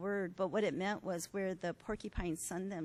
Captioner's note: none